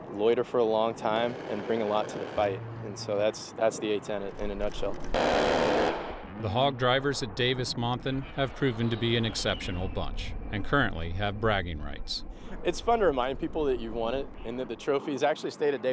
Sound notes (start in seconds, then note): 4.6 roaring gunfire